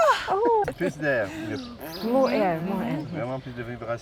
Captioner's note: speaks French